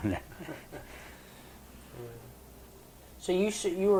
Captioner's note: laughs